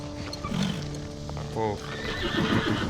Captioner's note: horse neighs